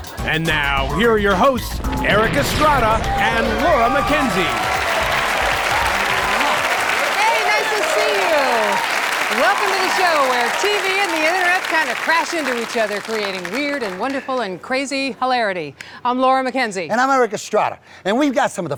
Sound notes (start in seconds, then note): 6.5 air kisses